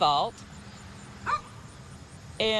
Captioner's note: dog barks